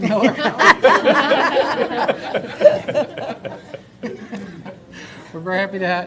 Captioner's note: laughter